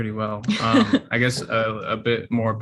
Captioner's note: chuckles